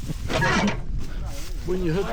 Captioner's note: laughing